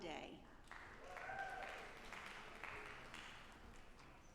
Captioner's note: audience applauding